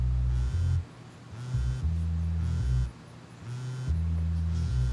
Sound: cellphone rings

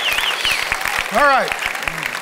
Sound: congregation applauding

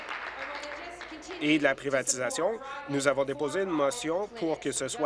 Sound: applause

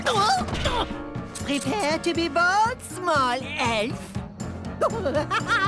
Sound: grunting

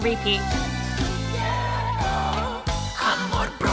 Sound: whispering along

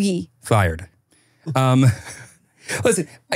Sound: laughs

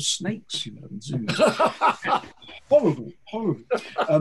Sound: laughing

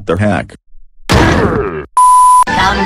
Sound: Thwomp Sound

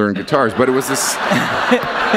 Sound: laughter

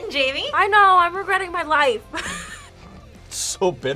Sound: laughs

